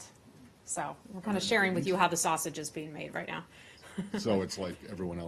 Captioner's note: laughter